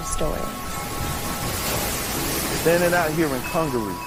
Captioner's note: water whirling